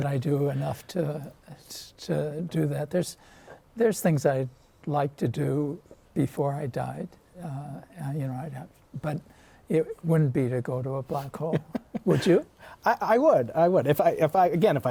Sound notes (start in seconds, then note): 11.3 laughter